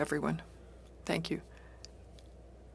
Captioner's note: speaking French